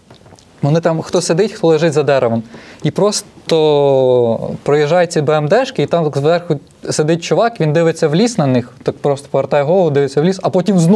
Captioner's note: russian